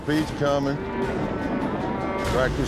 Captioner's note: cattle stampeding